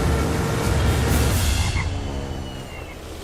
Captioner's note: frogs croaking